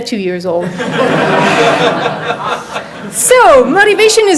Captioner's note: audience laughs